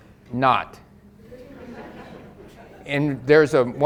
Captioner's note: audience laughs